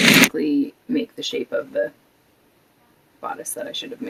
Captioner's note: none